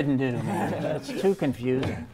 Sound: laughing

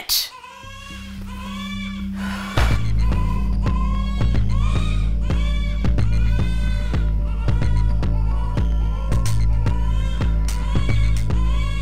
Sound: distant baby crying

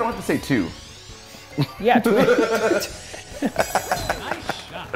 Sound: laugh

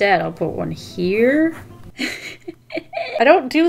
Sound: laughs

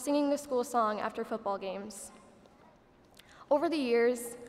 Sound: none

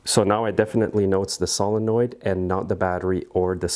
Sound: none

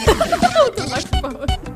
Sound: giggles

